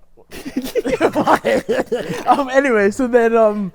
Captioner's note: Deji laughs